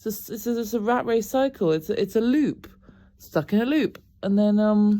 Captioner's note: none